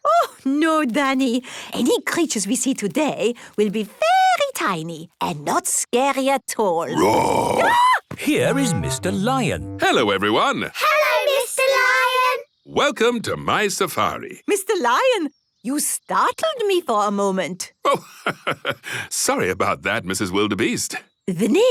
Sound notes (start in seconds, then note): 6.9 roar, scream